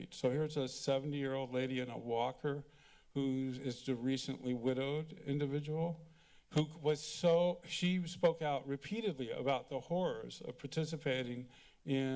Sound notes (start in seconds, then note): none